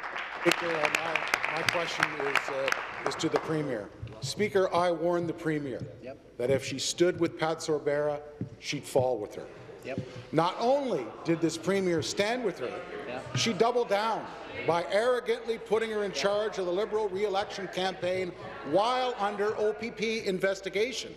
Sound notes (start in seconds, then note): 4.7 applause